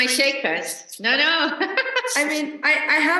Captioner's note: laughs